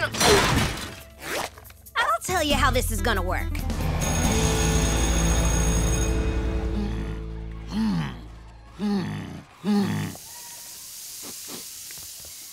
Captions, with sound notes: I'll tell you how this is gonna work. [bell ringing] [grunting] [sniffing]